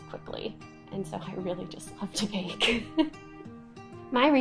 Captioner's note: laughing